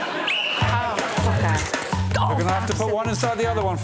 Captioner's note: blows whistle